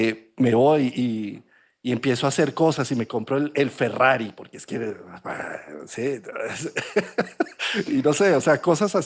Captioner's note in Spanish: risas